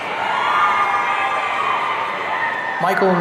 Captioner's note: audience cheering